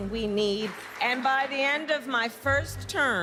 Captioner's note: cheers and applause